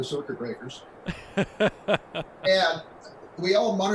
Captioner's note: laughs